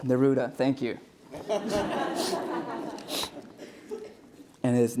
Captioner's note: audience laughter